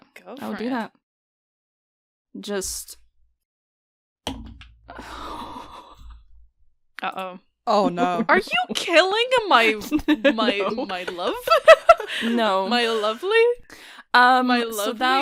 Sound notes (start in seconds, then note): 4.2 dice thunks; 4.9 sighs; 7.9 chuckling